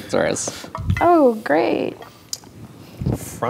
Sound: sarcastically

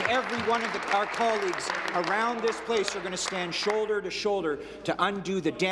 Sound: applause

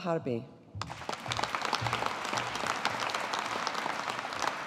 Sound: audience applauding

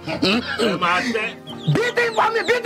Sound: speaking foreign language

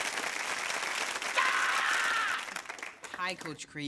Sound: screaming

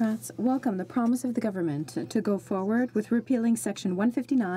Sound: speaking French

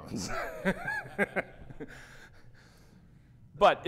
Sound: laughs; audience laughs

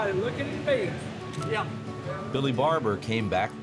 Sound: camera shutter clicks

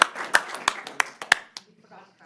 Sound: applause

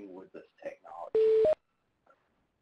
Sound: dial tone beep

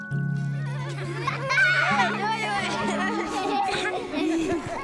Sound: children laughing

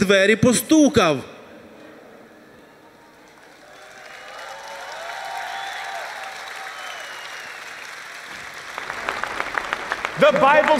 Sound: applause

